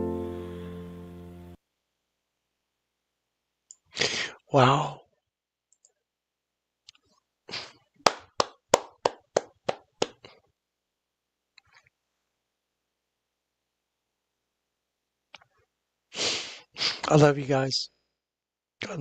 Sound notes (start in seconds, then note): 8.0 claps